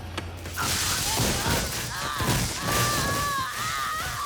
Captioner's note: screaming